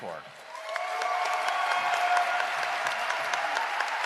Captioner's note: cheering and applause